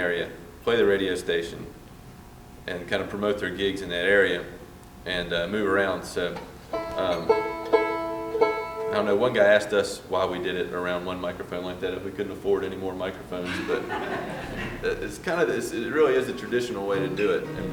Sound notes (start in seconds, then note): 13.4 laughter